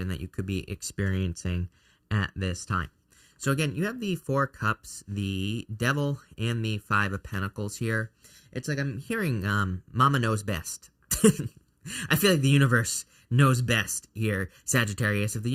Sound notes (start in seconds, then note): 11.1 chuckles